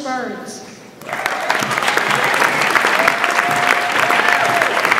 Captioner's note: audience applauds